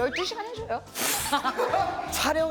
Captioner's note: pffft